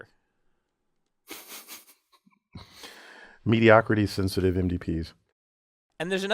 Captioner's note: laugh